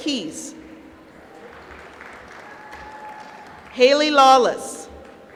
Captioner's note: applause